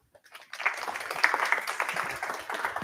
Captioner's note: applause